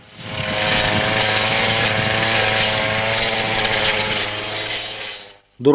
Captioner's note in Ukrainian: Шум електрокоси